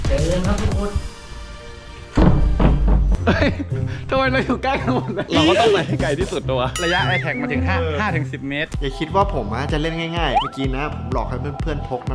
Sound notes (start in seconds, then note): 2.1 door closing; 3.2 chuckles